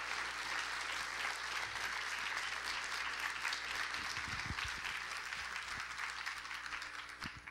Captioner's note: applause; continued applause